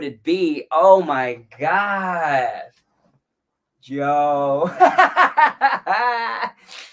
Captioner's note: laughs